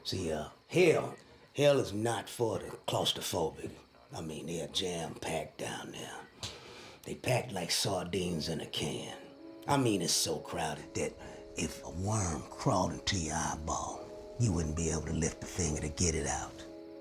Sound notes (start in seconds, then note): none